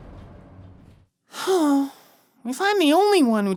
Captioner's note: sighing